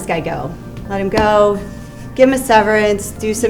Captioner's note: smacking table